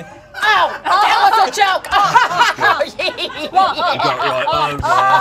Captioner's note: laughing